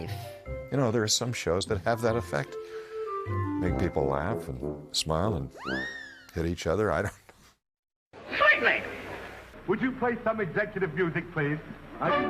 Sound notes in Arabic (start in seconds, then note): 8.0 يضحك